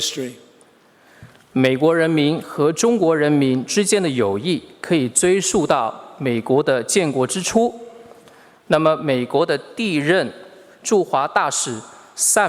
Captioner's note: speaking Mandarin Chinese